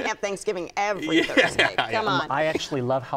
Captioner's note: laughs